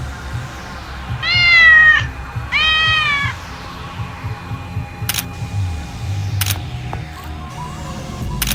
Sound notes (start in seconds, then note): 2.5 cat meows